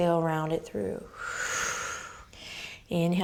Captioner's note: exhaling